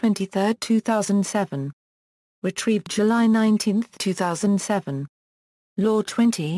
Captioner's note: Croatian